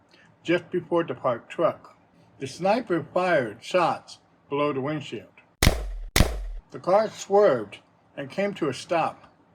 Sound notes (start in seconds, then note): 5.6 gun shots